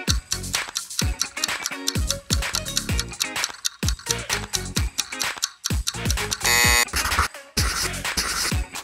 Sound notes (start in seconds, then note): 6.4 buzzer